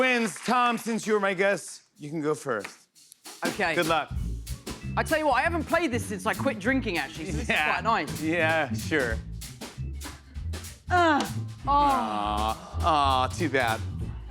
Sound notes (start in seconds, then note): 10.7 grunts